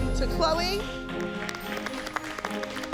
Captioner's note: all applauding